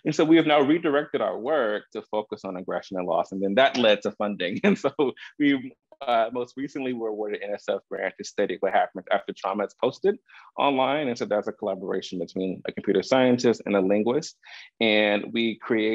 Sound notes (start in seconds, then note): 3.5 laughs